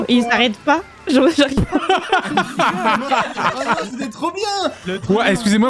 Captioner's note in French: éclate de rire